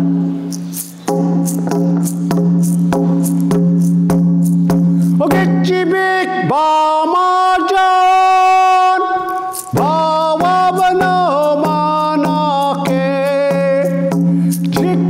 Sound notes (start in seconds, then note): 0.0 rhythmic drumming; 5.6 foreign vocalizing